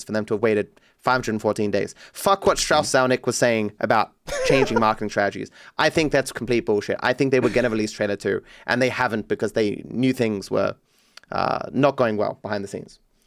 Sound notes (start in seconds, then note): 4.2 laughs